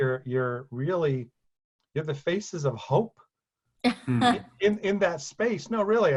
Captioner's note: laughs